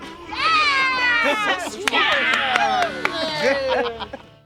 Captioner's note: campers cheering